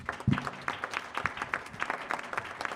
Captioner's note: applause